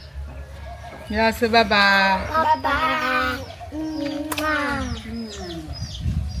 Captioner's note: kisses